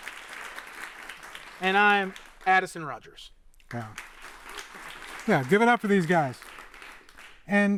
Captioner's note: applause; applause